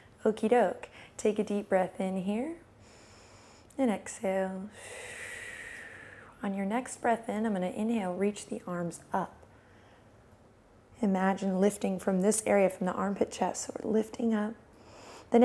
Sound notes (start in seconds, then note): 3.1 inhales; 4.7 exhales